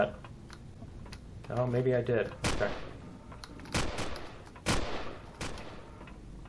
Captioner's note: footsteps; reloading; turrets turning and firing; explosion; footsteps; pistol firing; turret turning